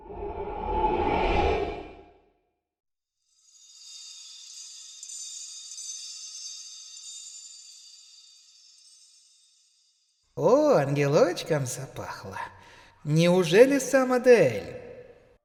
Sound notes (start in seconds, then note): 3.3 the sound of glass ringing